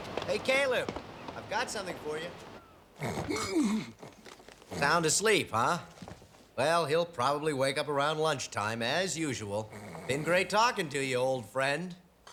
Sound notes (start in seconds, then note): 2.9 snores, groans